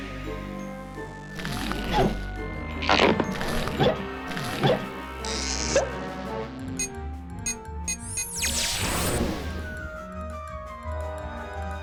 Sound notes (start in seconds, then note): 7.8 beeping